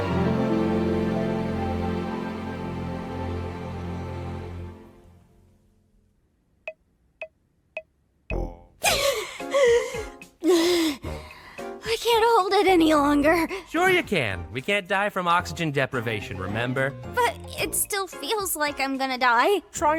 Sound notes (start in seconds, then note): 6.7 upbeat, goofy music plays; 10.4 gasping